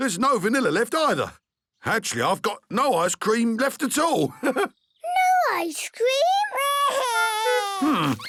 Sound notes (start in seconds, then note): 4.2 chuckles